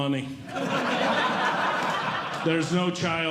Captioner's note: audience Laughing